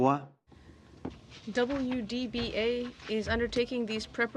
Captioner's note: speaking French